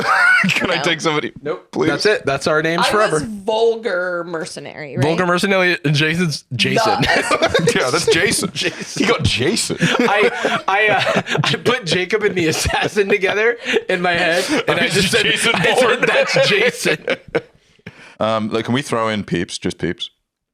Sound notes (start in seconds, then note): 16.7 laughing